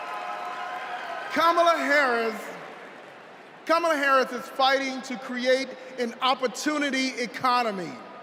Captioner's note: cheers and applause